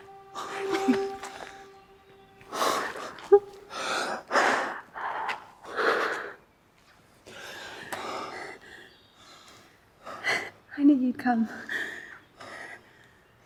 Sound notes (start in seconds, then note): 2.7 both sniffle